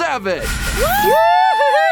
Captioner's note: cheers